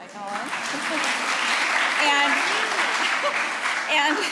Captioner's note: applause; laughing